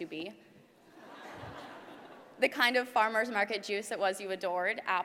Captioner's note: laugh